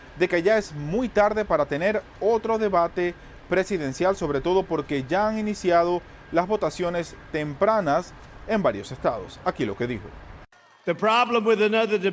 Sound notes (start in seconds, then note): 1.9 HABLAN EL INGLéS